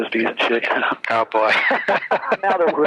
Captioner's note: laughs